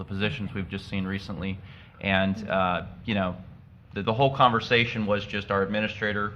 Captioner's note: audio blip